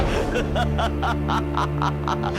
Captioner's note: laughter